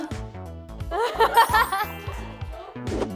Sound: just laughs..★

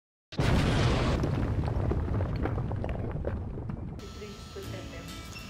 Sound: explosions

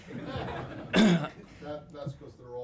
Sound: laughter

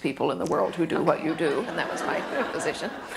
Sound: laughter

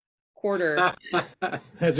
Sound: laughs

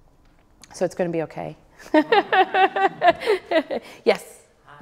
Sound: laughs

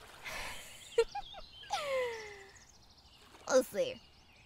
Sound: mischievous laugh

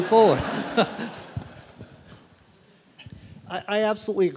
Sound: audience laughing

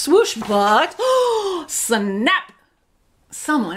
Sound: gasps

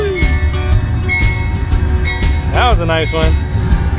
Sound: train bell

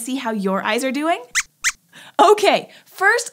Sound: squeaks squeaks

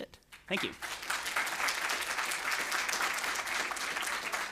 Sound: applause

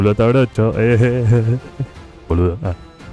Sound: more stupid person laugh

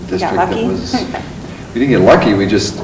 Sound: laughs

